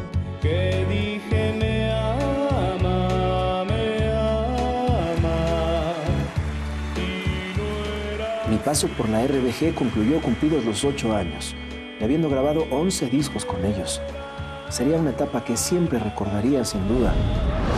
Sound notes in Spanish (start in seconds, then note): 5.7 Aplausos